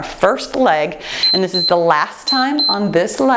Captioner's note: timer beeps